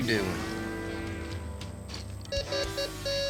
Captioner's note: beeps